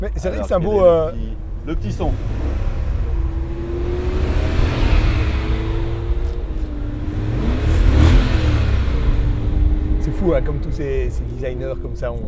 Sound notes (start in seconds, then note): 2.8 engine roaring